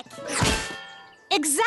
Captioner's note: thud!